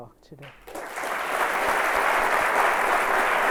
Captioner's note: applause